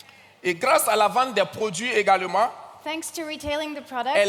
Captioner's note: continues in French